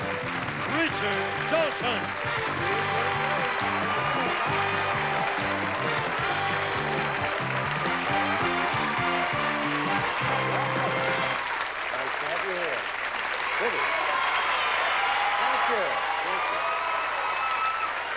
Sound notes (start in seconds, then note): 2.7 theme music playing; 13.7 cheering